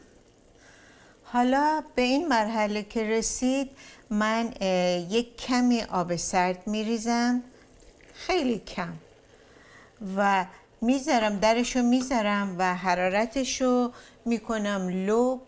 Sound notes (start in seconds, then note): 3.3 begins boiling